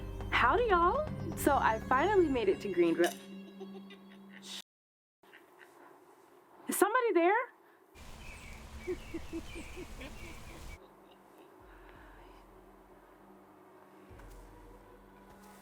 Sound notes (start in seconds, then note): 3.3 person cackling; 8.9 person cackling; 12.4 suspenseful music